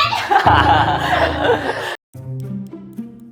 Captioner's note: laughs in pain